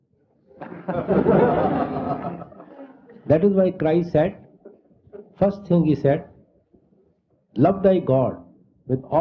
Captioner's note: laughter